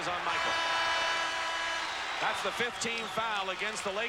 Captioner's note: horn blows